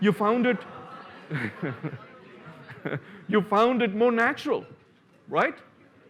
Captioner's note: laughs